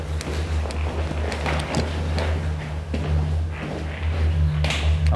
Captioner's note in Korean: 계단을 오르는 발소리